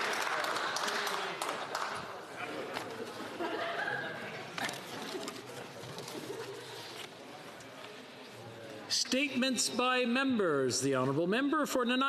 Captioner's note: applause